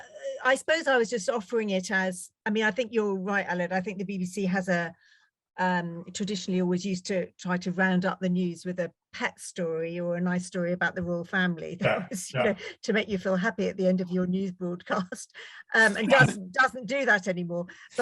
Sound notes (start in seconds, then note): 11.8 laughs